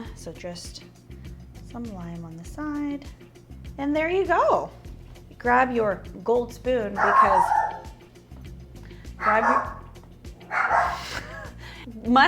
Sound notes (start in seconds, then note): 6.9 dog barking; 10.4 dog barking